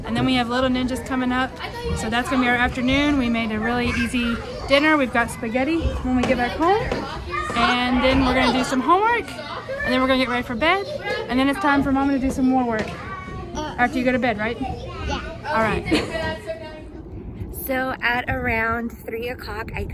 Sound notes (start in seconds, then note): 15.7 laughs